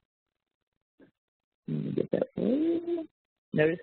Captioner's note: softly mumbles